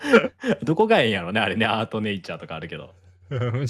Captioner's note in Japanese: 笑い